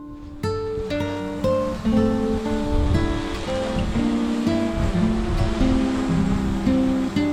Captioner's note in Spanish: Sonido de zumbido del dron flotando